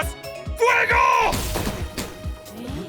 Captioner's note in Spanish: Disparos